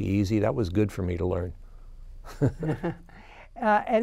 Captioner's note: laughs